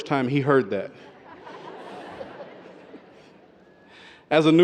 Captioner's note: audience laughter